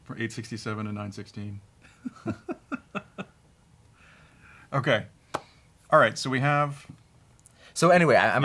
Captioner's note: chuckles